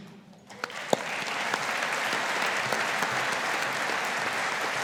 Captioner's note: audience applauding